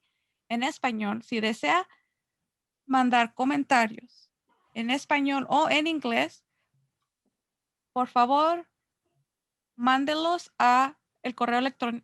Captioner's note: Spanish